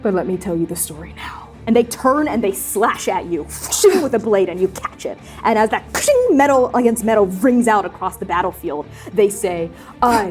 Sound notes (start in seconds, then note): 3.6 blade slicing; 6.1 metallic clanging